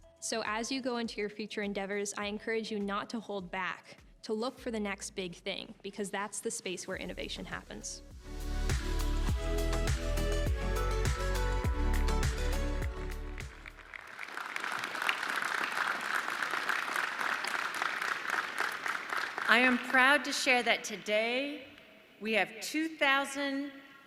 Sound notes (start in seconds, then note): 8.6 upbeat music; 14.2 audience clapping